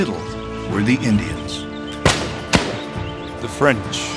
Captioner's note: guns fire